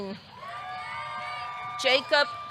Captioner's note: audience cheering; audience clapping